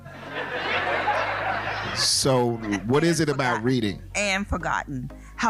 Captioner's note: laughing